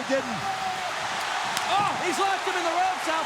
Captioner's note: crowd cheers